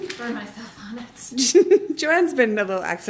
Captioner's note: laughing